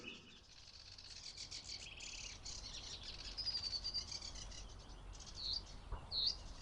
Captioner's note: sedge Warbler calling